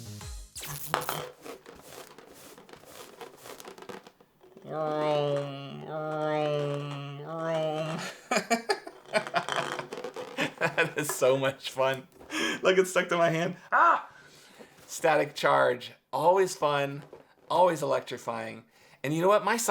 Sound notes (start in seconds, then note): 1.1 gentle rustling; 7.9 amused laughter